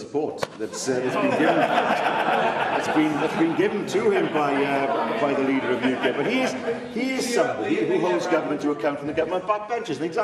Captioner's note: laughter